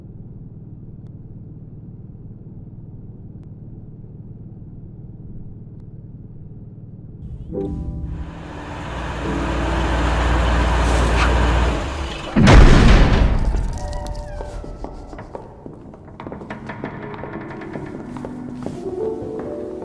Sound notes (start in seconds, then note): 7.3 soft piano music; 12.0 doors bang loudly; 14.2 footsteps and creaking echo